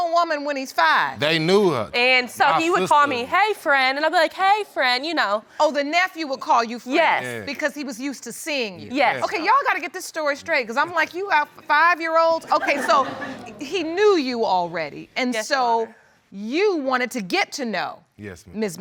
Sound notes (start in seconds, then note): 10.7 all laughing